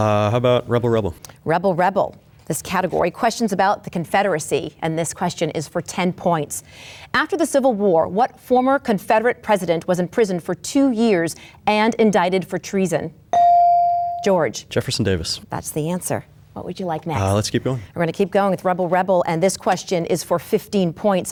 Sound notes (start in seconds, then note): 13.3 bell dings